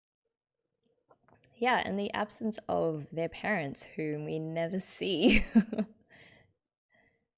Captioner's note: laughs